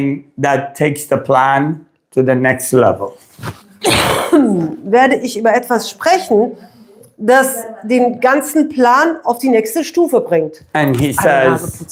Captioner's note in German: räuspern